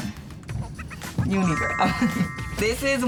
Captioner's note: laughs